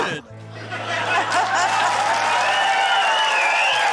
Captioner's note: laughter, cheering, applause